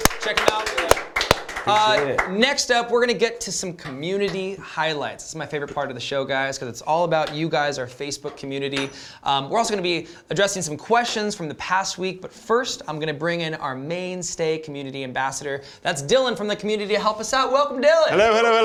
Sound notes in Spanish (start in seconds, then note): 0.0 aplausos